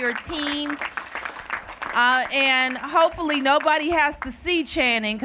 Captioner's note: applause